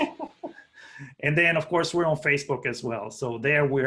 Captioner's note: laughter